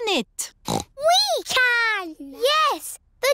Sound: snorts

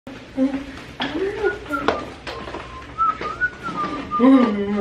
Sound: whistling

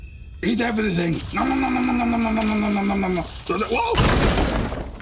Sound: Igor grumbles

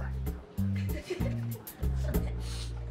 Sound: laughter; sniffles

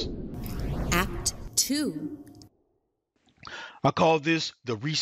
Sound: robotic Voice

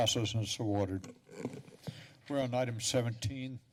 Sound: pause

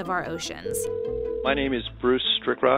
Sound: phone rings

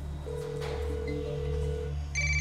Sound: phone ringing

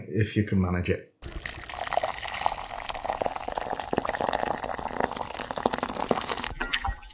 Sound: water pouring; stirring

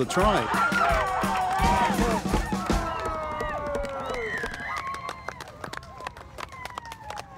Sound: cheering

